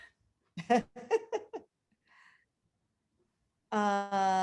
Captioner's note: laughing